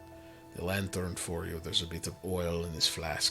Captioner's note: none